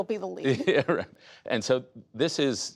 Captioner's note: laughter